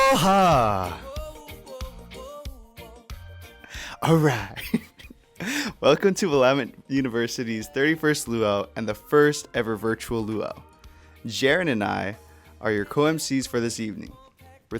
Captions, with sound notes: All right! (chuckles) Welcome to Willamette University's 31st Lū'au and the first ever virtual Lū'au. Jarin and I are your co-emcees for this evening.